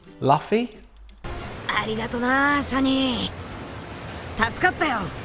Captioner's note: speaking japanese